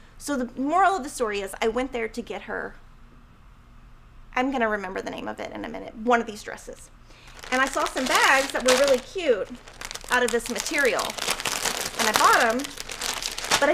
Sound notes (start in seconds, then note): 11.3 plastic rustling